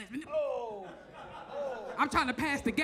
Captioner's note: audience laughs